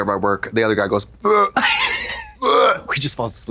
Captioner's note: gags; Trixie retches